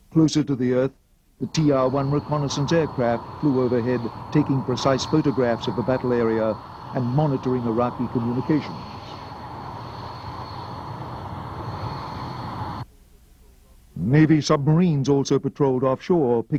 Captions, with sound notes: Closer to the earth, the TR-1 renaissance aircraft flew overhead taking precise photographs of the battle area and monitoring Iraq communications. (jet engine roaring) Navy submarines also patrolled offshore